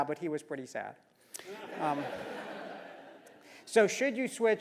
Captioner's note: laugh